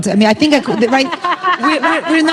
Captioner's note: laughter